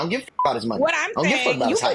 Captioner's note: beep